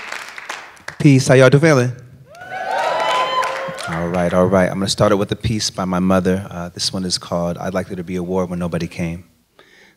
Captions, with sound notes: Peace. How you all feeling? (cheers) All right. All right. I'm going to start it with a piece by my mother. This one is called “I'd Like There to Be a War Where Nobody Came”.